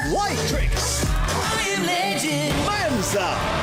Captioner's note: applause, cheering